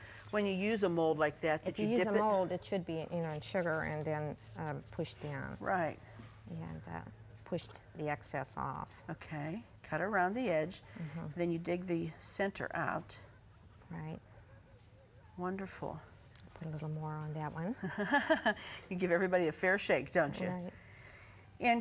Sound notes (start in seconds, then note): 17.9 laughing